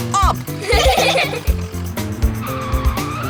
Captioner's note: giggling; screeching